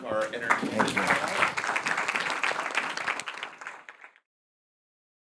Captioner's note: audience applauding